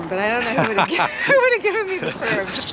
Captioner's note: laughs